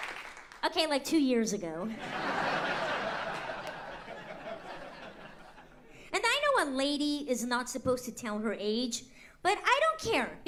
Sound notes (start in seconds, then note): 0.0 cheering and applause; 1.9 laughter